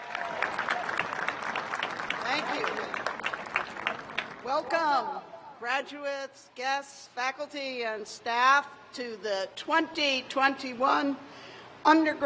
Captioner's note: cheers and applause